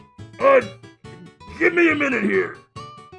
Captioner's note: strained